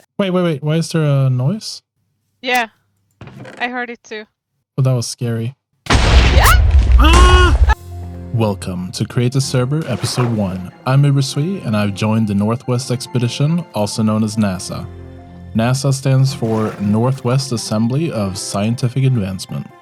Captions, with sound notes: Wait, wait, wait. Why is there a noise? Yeah. I heard it too. Well, that was scary. [Explosion] [Screams] Welcome to Create a Server, Episode 1. I'm Ubersuite and I've joined the Northwest Expedition, also known as NASA. NASA stands for Northwest Assembly of Scientific Advancement.